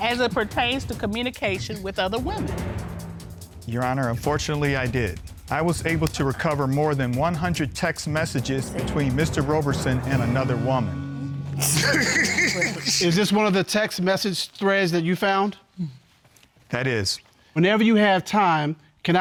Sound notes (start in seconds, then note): 11.6 laughs